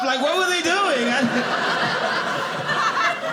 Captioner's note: audience laughing